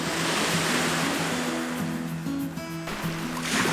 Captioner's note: waves crashing